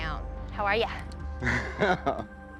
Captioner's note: chuckles